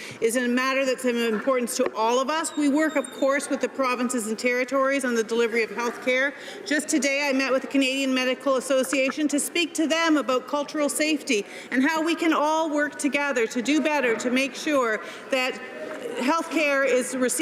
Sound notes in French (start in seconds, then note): 5.8 voix de l'interprte